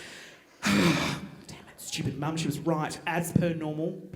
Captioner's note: sighing